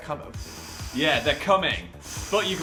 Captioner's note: blowing